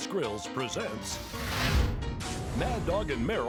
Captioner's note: logo whooshing